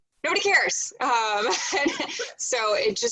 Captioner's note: laughing